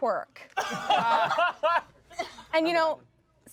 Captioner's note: everyone laughs